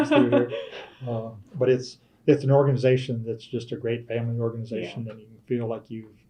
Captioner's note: laughter